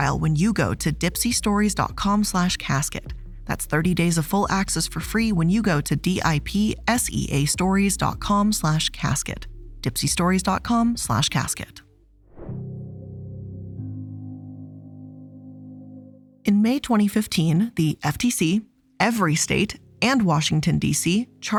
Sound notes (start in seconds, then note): 12.3 air whooshes; 12.4 suspenseful music